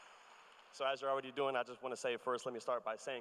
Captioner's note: cheers and applause